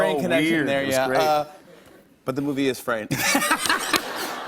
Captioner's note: laughter